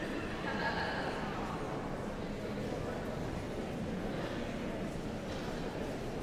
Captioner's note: audience chattering continues